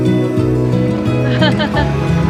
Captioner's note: laughing